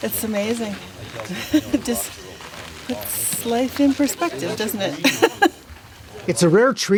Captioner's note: laughing